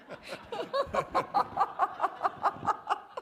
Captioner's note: laughter